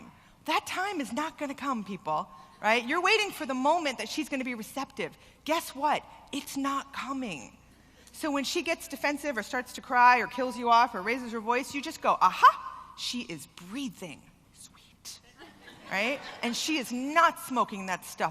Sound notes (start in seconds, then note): 15.3 laughter